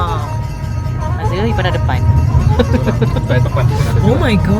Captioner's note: laugh